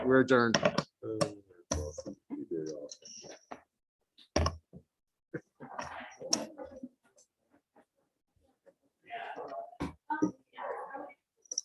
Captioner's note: indistinct chatters